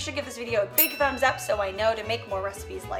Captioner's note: bell rings